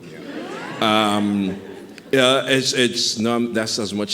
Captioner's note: audience chuckling